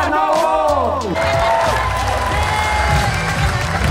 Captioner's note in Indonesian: tepuk tangan